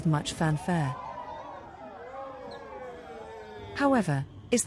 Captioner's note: applause